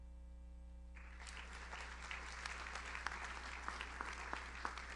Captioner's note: audience applauds